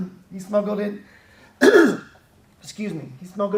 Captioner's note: clears throat